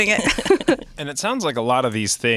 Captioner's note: laughing